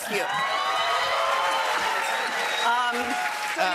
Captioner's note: cheers and applause